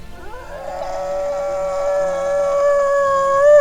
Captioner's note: roaring